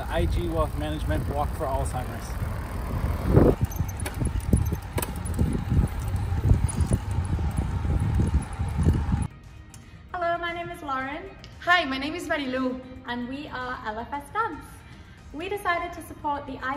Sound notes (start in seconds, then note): 3.8 bike squeaking